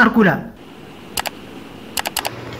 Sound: typing

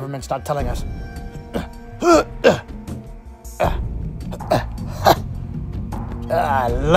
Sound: struggle Sounds

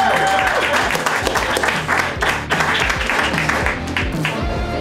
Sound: crowd cheering; crowd

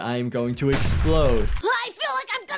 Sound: explosion booms

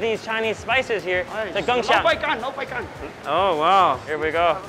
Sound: speaks mandarin

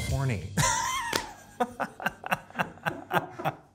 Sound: laughing

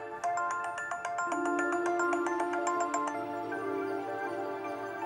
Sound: mobile ringing

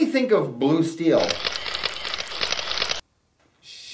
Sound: camera shutters

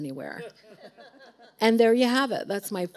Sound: audience laughing

